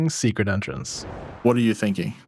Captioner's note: whooshing